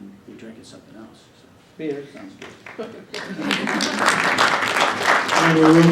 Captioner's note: applause